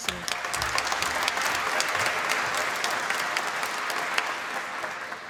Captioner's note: applause